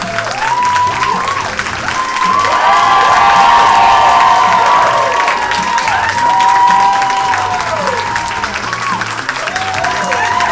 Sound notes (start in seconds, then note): 2.6 audience cheers and applauds